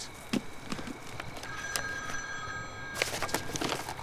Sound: phone ringing

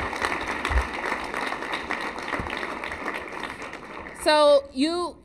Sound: applause

